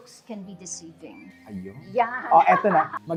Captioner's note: laughs